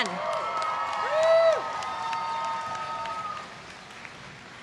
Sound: applause

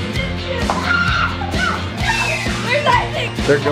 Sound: yelling

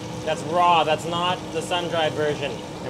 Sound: none

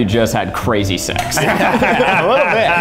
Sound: all laugh

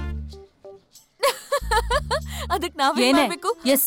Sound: laughs

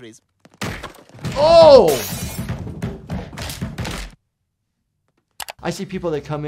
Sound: glass crashing and Stewie thudding

